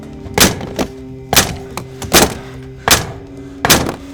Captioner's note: gun banging